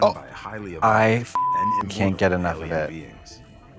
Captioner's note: beep